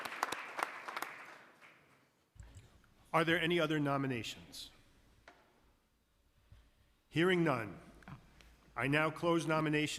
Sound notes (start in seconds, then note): 2.1 applause